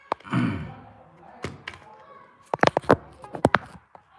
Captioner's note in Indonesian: berdehem